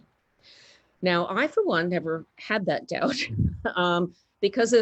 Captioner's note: chuckles